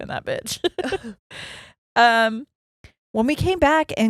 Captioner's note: giggles quickly